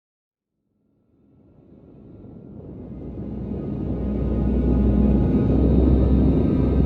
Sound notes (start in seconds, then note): 0.9 gentle music; 2.1 wind whooshing